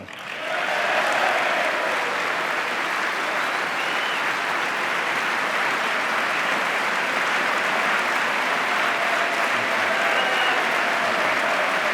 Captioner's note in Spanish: aplauso